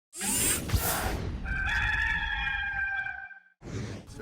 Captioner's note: whoosh; rooster crowing